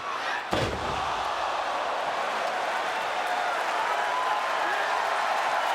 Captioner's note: audience cheering